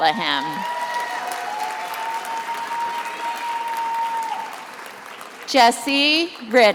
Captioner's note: attendees applauding and cheering